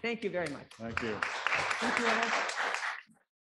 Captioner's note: audience claps